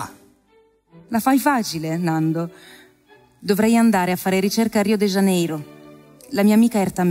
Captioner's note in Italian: voce di donna fuori campo